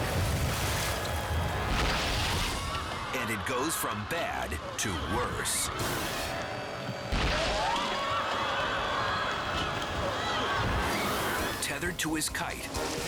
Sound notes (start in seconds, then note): 0.0 surfer crashing; 1.2 crowd screaming; 6.9 crowd screaming; 6.9 surfer crashing